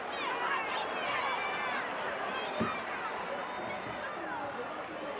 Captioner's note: audience chattering